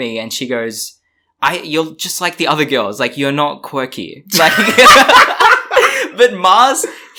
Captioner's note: laughs